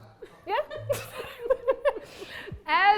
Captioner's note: laughing